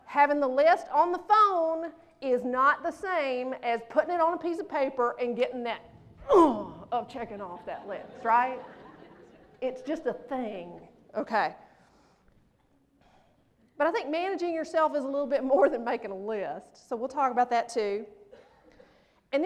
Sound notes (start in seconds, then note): 6.3 grunts; 7.4 laughter